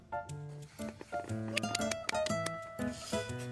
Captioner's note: clapping like a seal